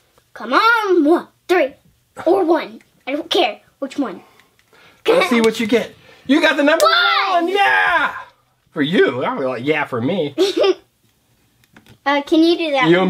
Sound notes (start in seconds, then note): 5.3 voiceover; 7.7 voiceover